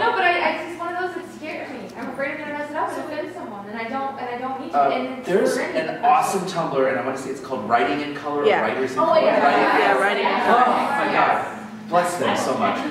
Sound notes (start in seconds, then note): 8.4 sounds of agreement